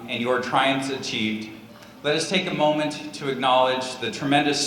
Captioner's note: none